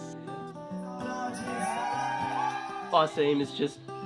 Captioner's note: upbeat music; audience cheers